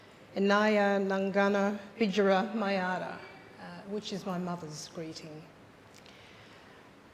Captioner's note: speaks in foreign language